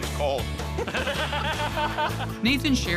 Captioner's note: laughter